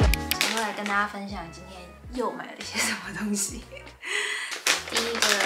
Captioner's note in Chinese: 哈哈